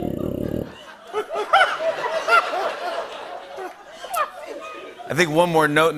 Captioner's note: laughter